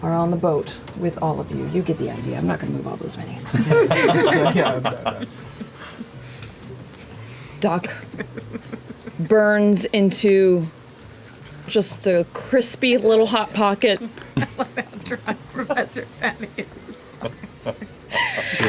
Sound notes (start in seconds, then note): 3.5 laughter